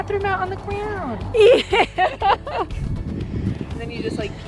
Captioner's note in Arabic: يضحك